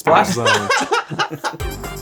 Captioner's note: Zack laughs; chuckles